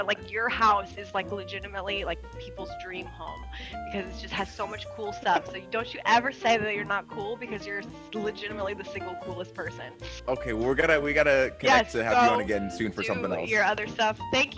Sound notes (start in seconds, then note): 3.2 laugh